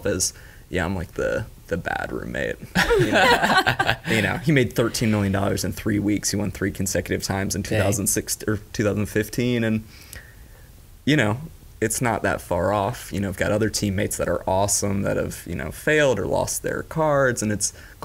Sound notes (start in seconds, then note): 2.7 laughing